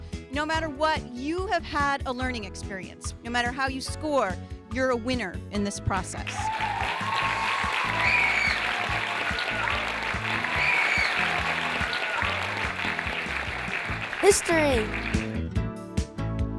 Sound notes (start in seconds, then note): 7.5 cheering; 8.3 clapping